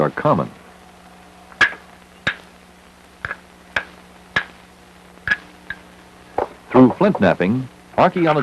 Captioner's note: sound of hammering rock